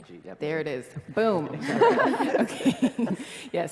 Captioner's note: laugh